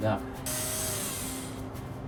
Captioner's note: power tools